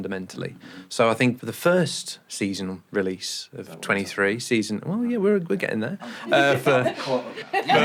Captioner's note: laughter